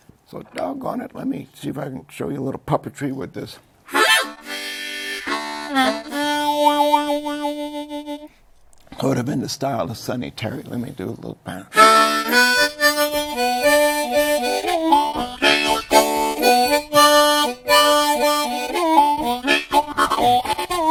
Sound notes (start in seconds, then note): 11.8 plays harmonica; 13.0 laughs